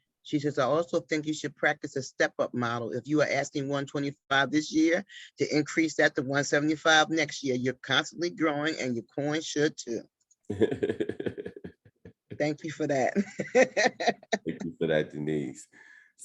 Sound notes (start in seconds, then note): 10.5 chuckling; 13.9 laughs